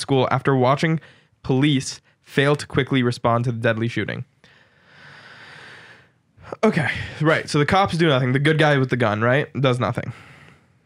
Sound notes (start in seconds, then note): 4.5 sighs deeply